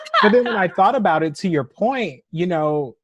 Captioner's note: laughter